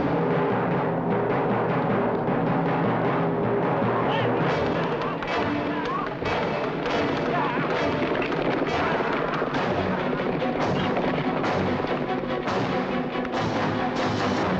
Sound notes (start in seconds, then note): 7.6 hooves clattering